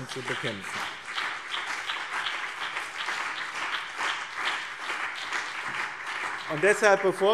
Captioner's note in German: Beifall BÜNDNIS 90/DIE GRÜNEN und CDU